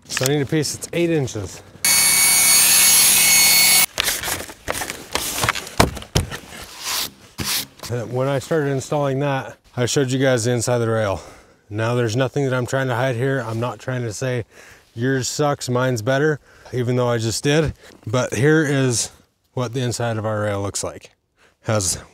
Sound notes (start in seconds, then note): 1.8 saw buzzing; 4.5 tapping panel